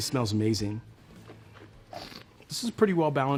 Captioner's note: slurps and swishes wine